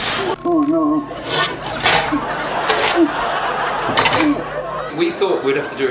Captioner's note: clangs and laughs